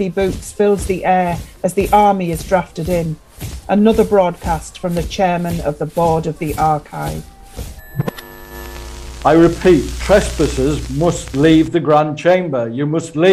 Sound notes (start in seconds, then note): 7.4 TV static